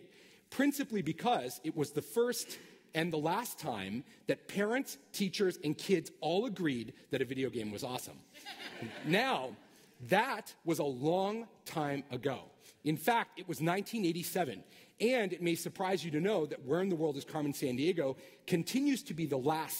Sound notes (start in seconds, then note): 8.3 laughter